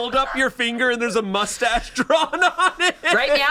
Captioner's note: laughs